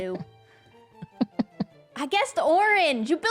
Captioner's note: laughs